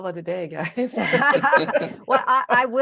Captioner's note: laugh